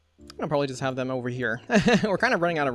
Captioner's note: laughs